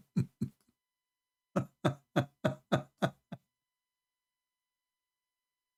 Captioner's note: Ketawa